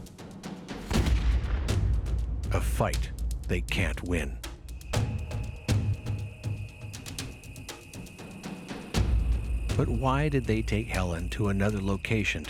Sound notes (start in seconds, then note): 0.9 gun fires; 5.1 dramatic music